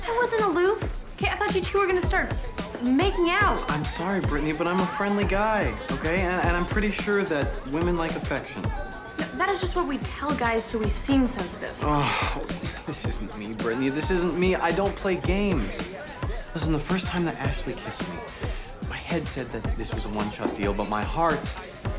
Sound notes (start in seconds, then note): 11.9 groans